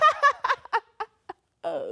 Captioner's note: laughs